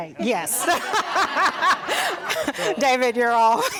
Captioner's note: all laugh